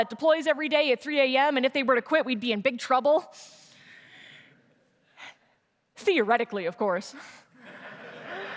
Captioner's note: laughter